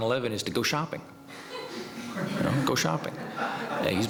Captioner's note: laughter